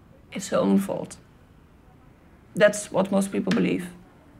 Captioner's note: none